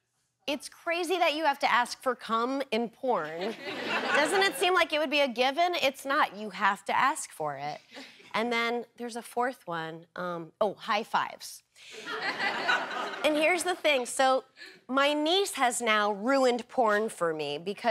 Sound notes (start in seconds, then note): 11.9 laughter